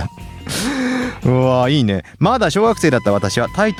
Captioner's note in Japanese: 息をのむ音; 笑い